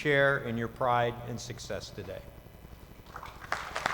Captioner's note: applause